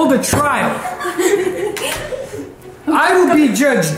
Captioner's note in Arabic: تضحك الفتيات